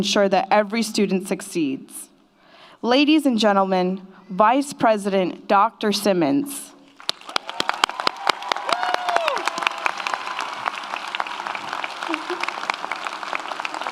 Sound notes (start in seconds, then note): 6.9 audience applauds; 7.1 audience cheers